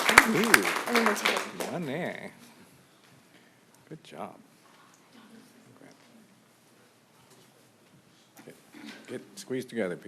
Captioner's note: applause